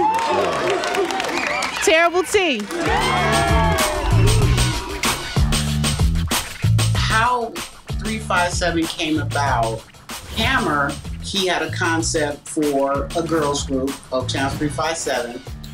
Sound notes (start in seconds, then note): 0.0 audience cheering; 5.3 upbeat music